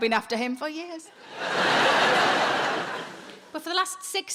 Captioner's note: audience laughing